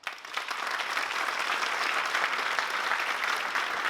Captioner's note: applause